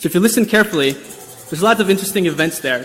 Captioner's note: brushing